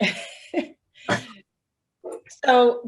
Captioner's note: laughter